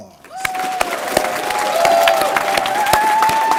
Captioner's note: applause